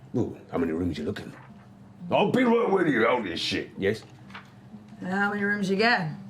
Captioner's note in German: lauter